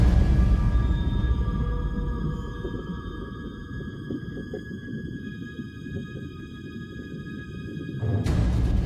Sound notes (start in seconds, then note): 0.0 water gurgles; 1.5 soft ambient music